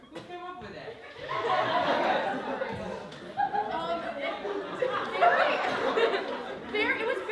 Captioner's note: laughter